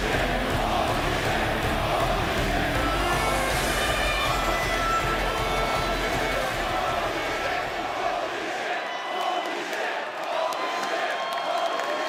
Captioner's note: fans chanting